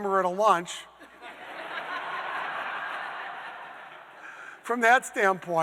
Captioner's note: audience laughing